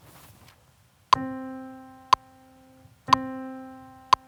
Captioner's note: metronome